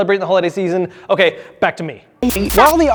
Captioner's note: white noise